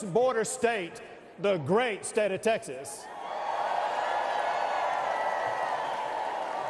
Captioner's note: cheers and applause